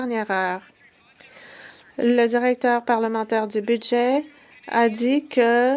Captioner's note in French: voix de l'interprète